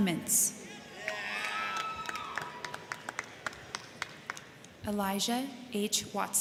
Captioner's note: crowd cheering; crowd clapping